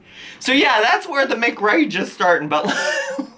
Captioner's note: laughs